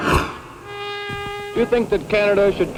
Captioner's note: horn